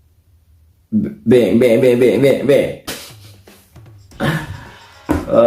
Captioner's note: laughs